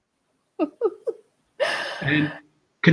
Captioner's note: laughing